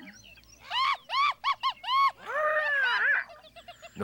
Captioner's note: chittering